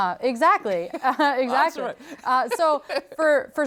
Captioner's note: laughs